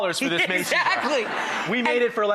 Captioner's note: giggles